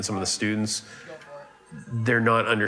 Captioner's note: gamer speaking faintly